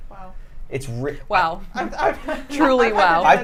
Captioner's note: laughter